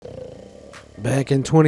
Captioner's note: person snoring